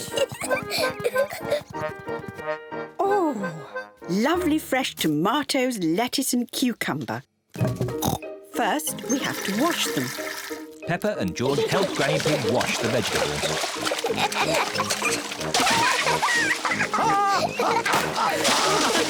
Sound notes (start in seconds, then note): 0.0 peppa pig laughs; 8.0 oinks; 13.6 both laugh; 17.0 laughs